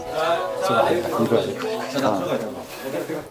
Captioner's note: whispers